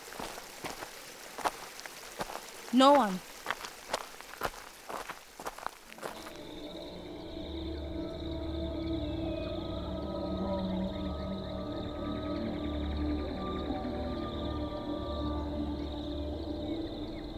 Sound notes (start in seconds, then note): 6.4 insects chirping; 6.4 ominous music